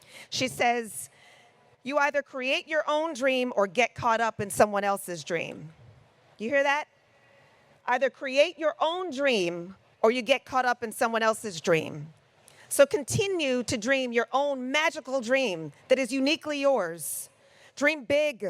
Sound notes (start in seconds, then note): none